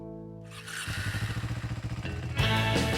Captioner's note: bike engine revs; gentle upbeat music